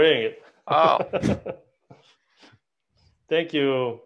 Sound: laughter

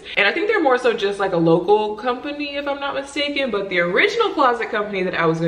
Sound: none

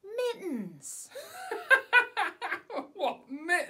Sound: laughs

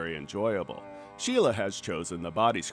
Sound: machine humming

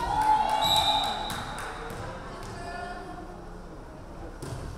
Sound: referee whistling

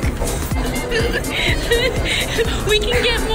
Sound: laughing

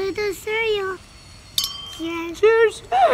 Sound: glass clinks

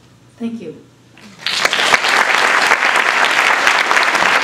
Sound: applause

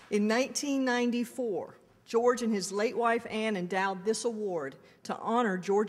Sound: none

